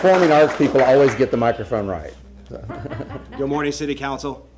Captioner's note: applause